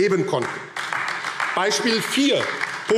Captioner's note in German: Beifall AfD